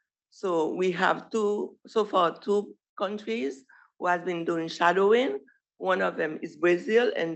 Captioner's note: none